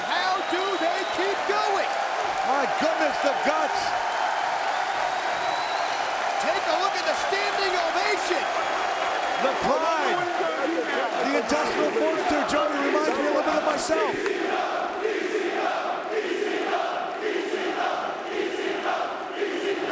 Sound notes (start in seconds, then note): 3.9 crowd cheering